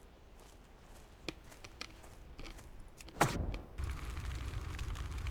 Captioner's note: gunfire